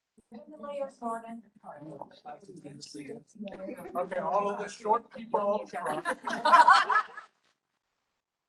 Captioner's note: chatter